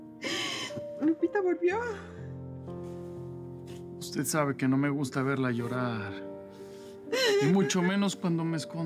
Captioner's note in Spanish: Sollozos